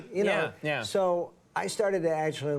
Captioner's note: none